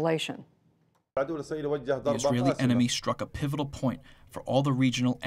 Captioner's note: through translator